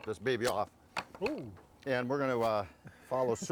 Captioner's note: pumpkin stalk hitting table